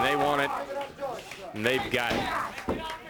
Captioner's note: crowd chatter